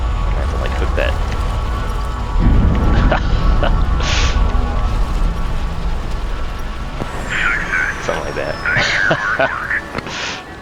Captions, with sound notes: Going to have to, like, hook that... [loud metallic crashing sounds] [laughs] Somethin' like that [laughs]